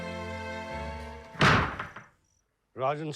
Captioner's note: door slamming